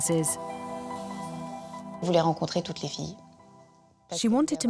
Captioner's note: speaking French